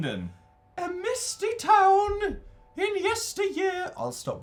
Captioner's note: in a high pitched voice